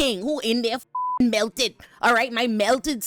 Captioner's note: beep